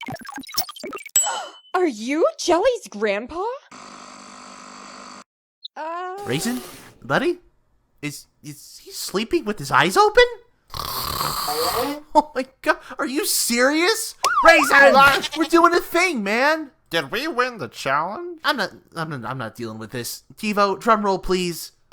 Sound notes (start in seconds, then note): 10.7 snoring; 14.2 siren blares